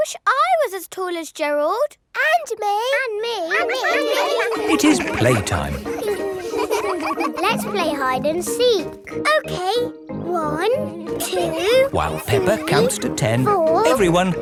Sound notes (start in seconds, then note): 3.5 all laughing; 6.0 all giggling